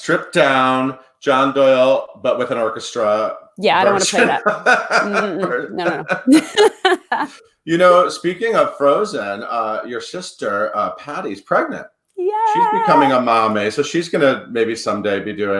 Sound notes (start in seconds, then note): 3.8 laughs